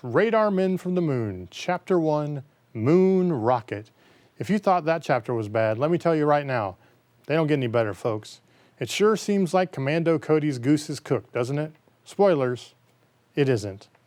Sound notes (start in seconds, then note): none